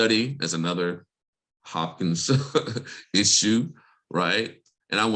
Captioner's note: laughs